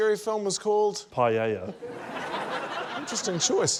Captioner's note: laughter